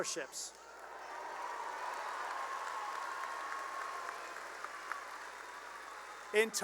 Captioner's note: cheering and applause